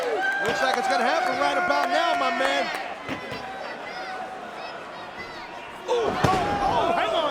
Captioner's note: spectators applauding